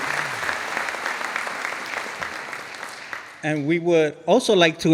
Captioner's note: audience applauding